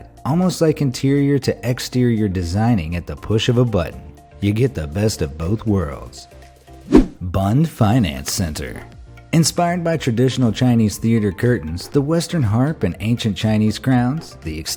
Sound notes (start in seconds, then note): 6.8 graphic whooshing